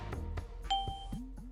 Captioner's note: Windows 3.1 Ding